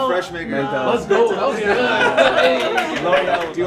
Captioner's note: laughing